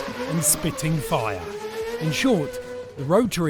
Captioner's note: engine roars